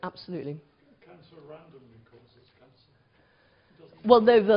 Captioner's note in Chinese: 無聲